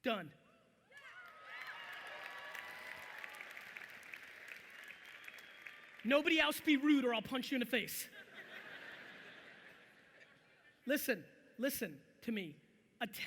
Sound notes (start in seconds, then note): 1.0 audience applauding loudly; 8.1 audience laughing